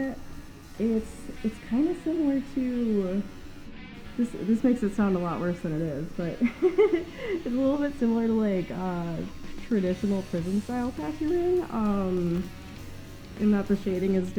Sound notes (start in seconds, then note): 6.3 laughing